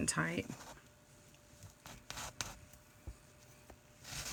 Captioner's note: cloth scratching